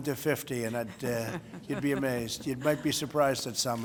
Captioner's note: laughter